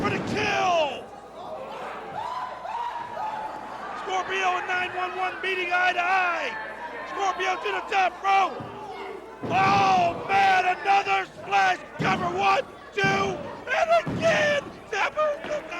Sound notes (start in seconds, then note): 6.3 crowd cheering